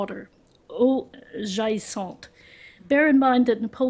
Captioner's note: french